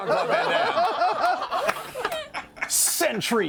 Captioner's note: laughter